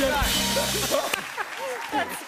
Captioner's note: laughs